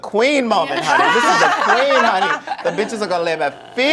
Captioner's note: laughter